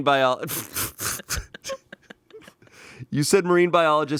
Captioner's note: everyone laughs